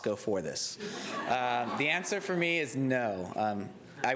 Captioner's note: laughter